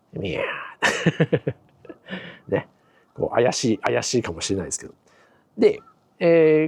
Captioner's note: laughs